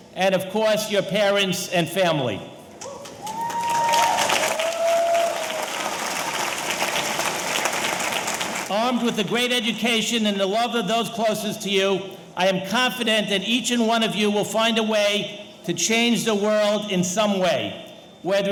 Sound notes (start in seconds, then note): 2.9 audience cheering; 3.0 audience applauding